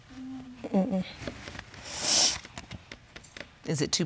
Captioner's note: sniffles